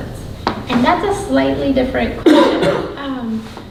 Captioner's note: coughing